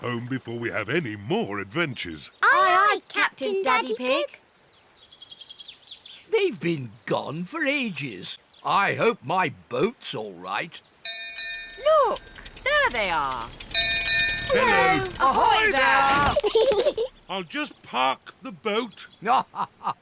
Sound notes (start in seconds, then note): 11.0 bell rings; 14.4 peppa and george giggle; 17.3 laughs